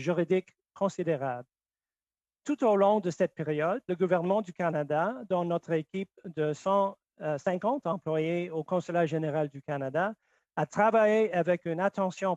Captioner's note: speaking French